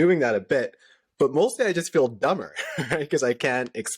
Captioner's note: laughter